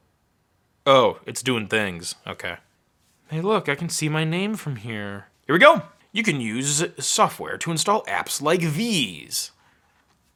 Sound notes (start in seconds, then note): none